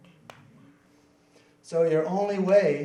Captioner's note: crowd murmuring